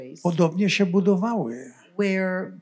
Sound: foreign language

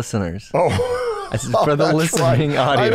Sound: laughter

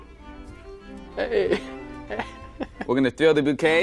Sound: laughing

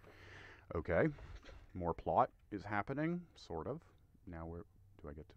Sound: deep breath

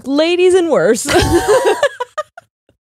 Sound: both laughing

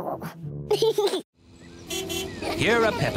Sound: giggles; car horn honks

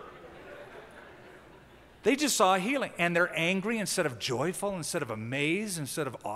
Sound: laughter

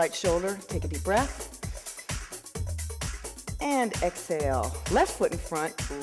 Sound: breathing

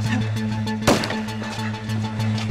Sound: blam!

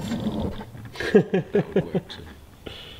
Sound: laughs

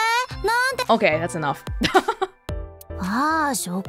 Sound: chuckles

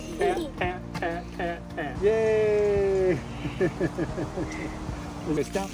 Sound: laughs

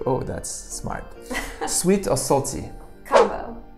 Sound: laughs

